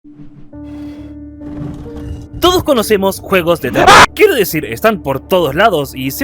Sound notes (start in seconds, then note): 3.8 scream